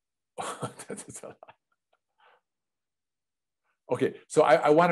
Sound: laughs

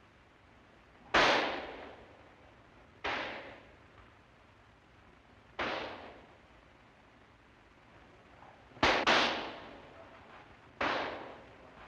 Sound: gunshots

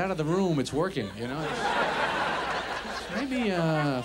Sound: audience laughs

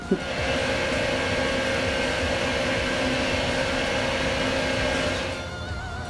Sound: lathe machine making lathe noises

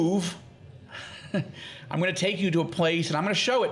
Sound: laughing

